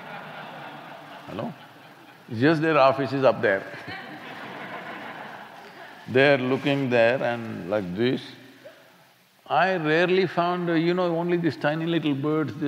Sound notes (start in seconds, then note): 0.0 laughter; 3.5 laughter